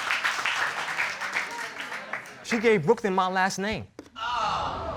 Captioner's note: audience exclaims